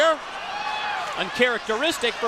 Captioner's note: crowd chatter